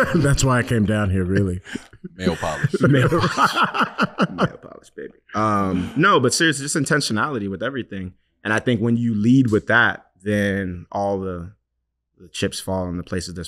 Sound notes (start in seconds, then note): 3.8 laughing